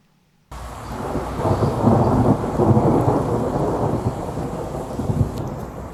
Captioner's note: thunder sound